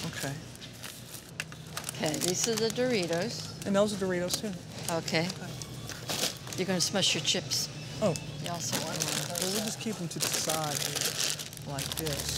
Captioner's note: indistinct chatter